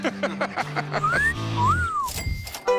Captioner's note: country folk music; whistling; cash register chiming